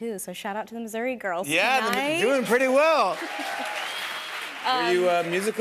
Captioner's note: cheers and applause